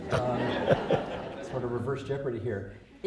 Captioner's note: laughter